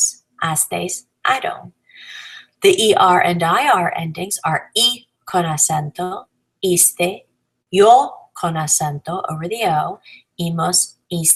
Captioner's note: con acento